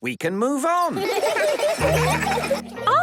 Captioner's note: laughter